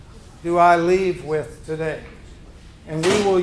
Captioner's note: group chattering